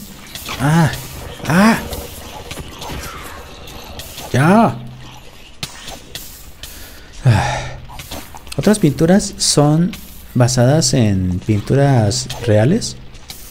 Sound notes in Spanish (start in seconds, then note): 7.2 suspira en tortuga